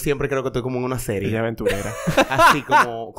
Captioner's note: laughs